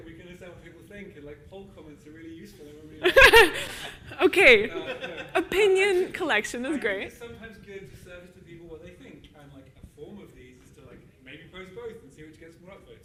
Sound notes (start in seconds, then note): 3.0 laughs